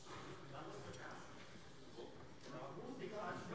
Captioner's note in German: none